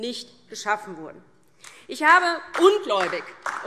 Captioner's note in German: Beifall DIE LINKE